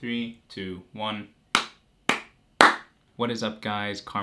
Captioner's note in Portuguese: Som de mãos batendo palmas